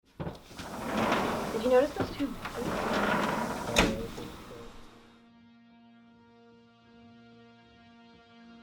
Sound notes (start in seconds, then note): 3.8 door slams shut